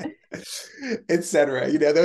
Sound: laugh

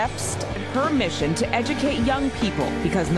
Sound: voiceover

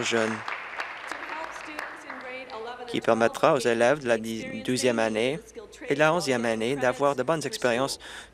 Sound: applause

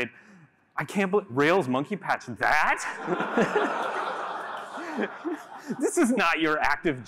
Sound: laughter

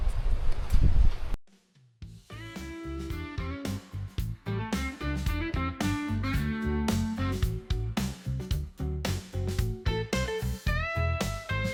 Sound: wind noise issue

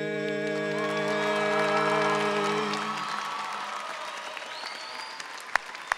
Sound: audience cheering and applauding

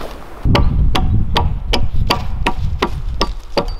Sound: ax tapping

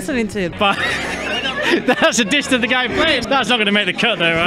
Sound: laughs

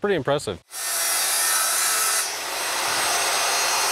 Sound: saw whines

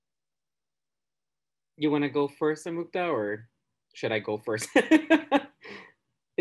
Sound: laughs

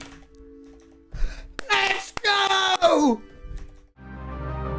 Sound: clapps

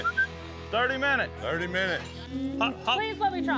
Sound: whistles

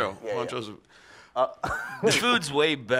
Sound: laughs

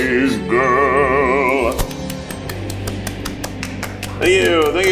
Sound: clapping

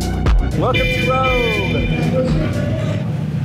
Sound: horn honking

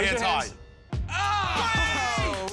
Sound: laughs

